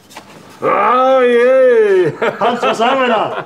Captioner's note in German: Sie jubeln und lachen